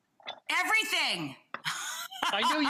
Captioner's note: laughs